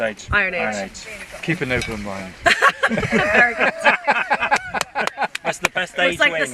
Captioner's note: laughter